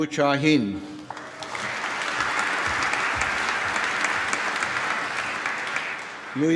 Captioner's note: applause